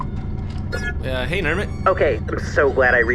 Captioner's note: transmission start sound